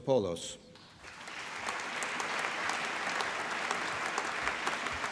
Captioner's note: applause